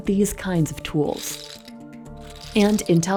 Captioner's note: graphic clattering